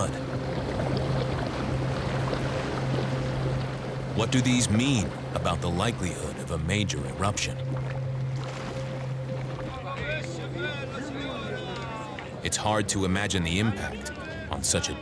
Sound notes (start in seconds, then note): 0.1 bubbling; 9.5 talking in background